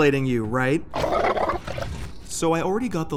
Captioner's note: 2Bells growling